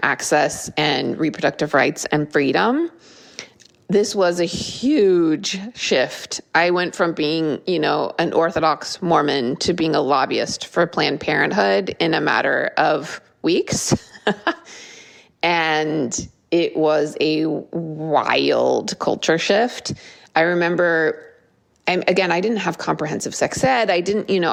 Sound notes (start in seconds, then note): 14.0 laugh